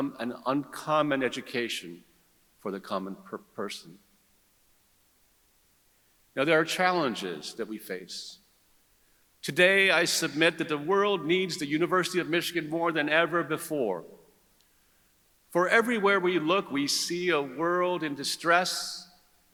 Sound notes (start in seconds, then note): none